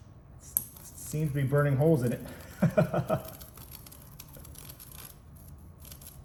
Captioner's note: laughs